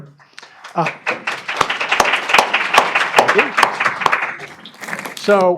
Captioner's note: applause